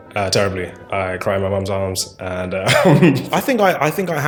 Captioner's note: laughs